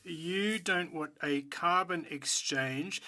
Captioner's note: speaking French